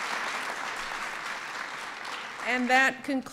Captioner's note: applause